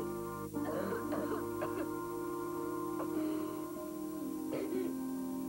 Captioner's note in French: Toux; Toux